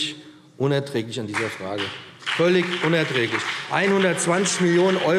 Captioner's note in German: Beifall BÜNDNIS 90/DIE GRÜNEN und CDU